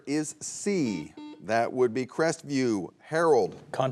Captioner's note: buzzer beeps